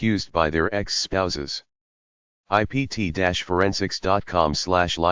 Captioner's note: Italian